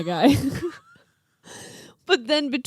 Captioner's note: laughing